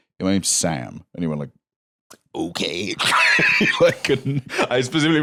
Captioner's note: laughs